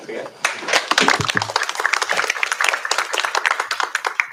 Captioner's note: applause